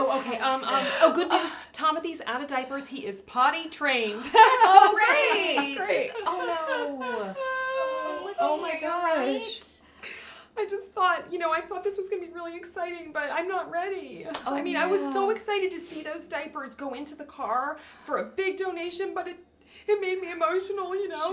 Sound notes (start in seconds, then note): 6.3 cries